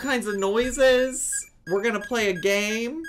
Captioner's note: Tamagotchi beeps